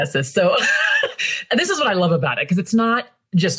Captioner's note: laughs